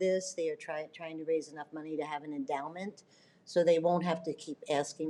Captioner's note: none